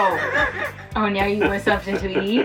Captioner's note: laughs